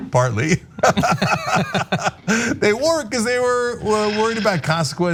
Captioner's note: laugh